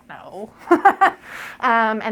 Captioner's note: laugh